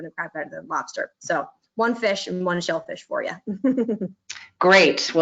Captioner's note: chuckling